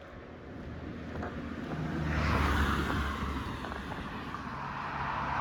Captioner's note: traffic noise